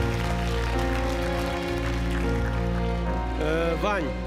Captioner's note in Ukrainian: оплески